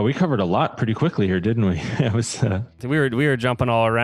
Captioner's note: laughs